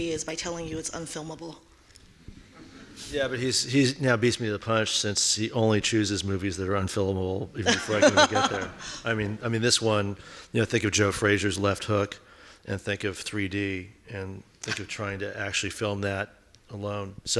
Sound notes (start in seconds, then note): 2.5 laughing; 7.6 laughing